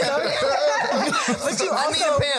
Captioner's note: panel laughing